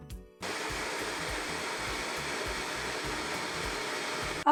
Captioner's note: blender whirs